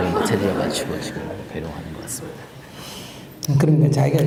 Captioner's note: audience Laughter